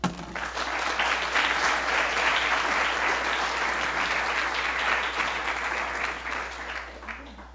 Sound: applause

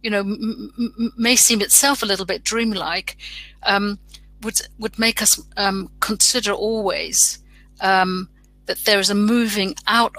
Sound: erm

